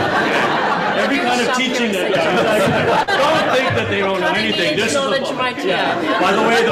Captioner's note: laughter